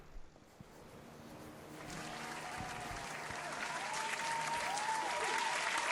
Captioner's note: audience up lauding